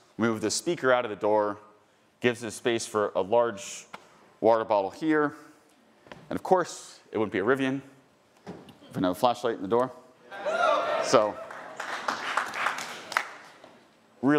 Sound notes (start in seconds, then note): 10.2 attendees cheering; 12.0 attendees applauding